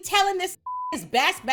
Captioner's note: beep